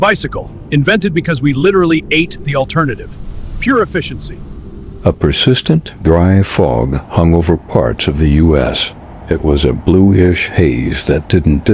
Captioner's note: sarcastic Commentary